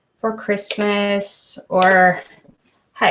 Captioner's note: click